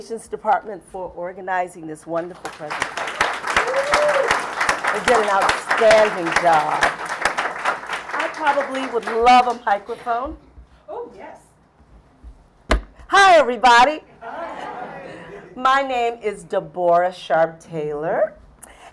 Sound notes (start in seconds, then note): 2.8 applause